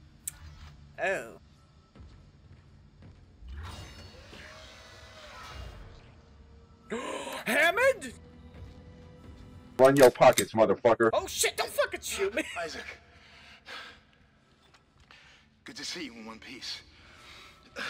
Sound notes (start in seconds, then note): 6.7 gasp; 13.1 intense breathing